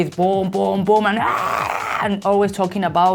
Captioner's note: screams